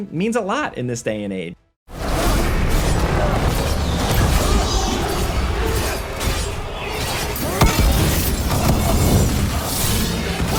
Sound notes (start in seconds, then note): 2.1 dramatic music; 4.2 characters grunting; 4.3 weapons clashing